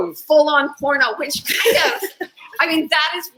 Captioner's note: laughs